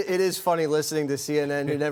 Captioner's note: laughter